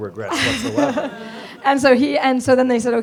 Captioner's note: laughter